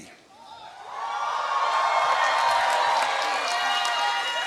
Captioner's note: cheering